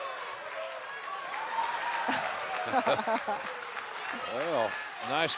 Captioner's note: laughter